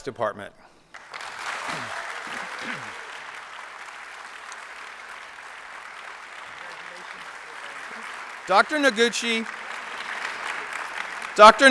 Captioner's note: applause